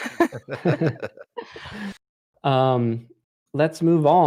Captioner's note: laughter